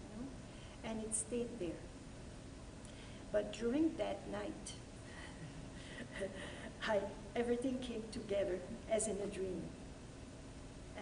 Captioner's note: laughter